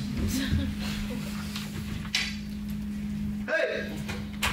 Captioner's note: audience member chuckles